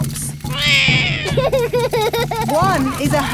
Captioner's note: laughs; roars